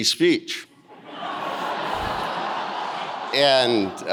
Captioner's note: audience laughing